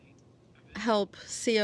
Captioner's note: speaking French